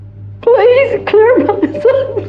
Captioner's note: crCryingng